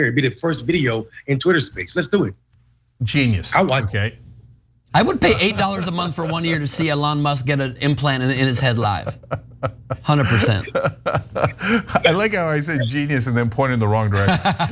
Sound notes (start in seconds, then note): 8.5 laugh; 14.2 laugh